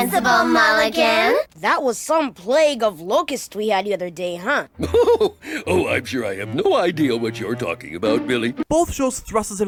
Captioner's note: chuckle